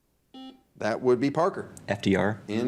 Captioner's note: buzzer dings